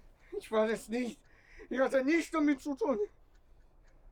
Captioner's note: speaking German